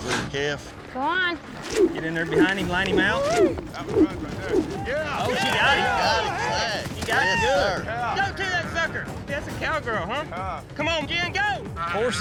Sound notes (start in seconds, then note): 3.5 cheering